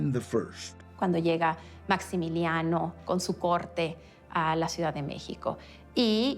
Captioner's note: in Spanish